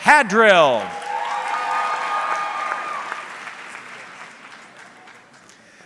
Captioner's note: audience cheering